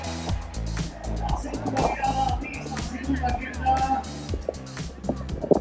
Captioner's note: speaker voice in Spanish